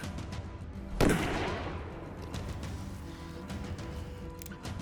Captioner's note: gunshot banging